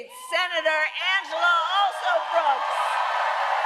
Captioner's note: applause